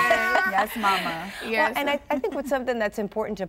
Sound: laughing

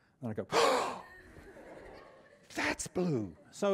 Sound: gasp; laughter

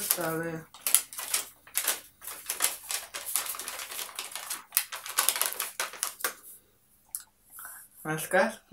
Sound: rustling

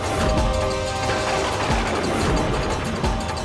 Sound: thundering

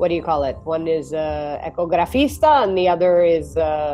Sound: speaks Italian

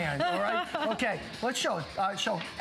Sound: laughter

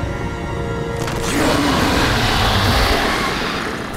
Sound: screeching

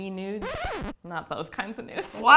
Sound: record scratch

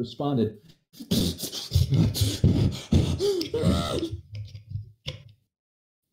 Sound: intense breathing

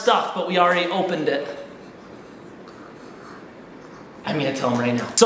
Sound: whispering

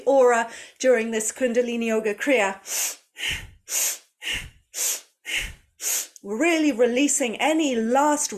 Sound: breathes

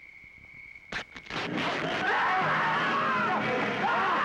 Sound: screaming

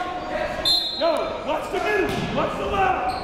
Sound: whistle blowing

